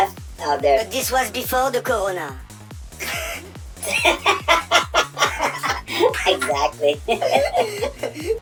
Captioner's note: laughters